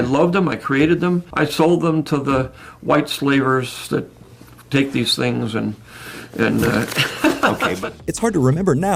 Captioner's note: laughs